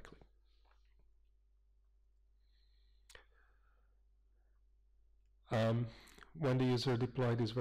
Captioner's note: pause